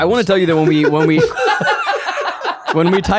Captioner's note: all laughing